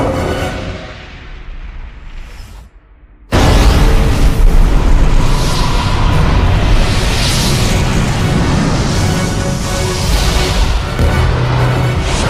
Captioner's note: explosion